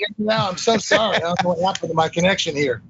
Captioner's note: laugh